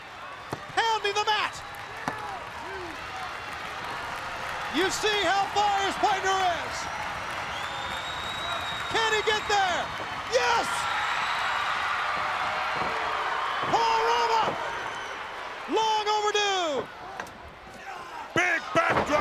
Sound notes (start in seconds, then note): 11.3 crowd cheering